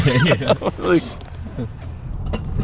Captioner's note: both laughing